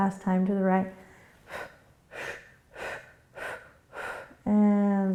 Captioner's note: quick breaths